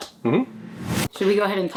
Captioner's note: logo whooshing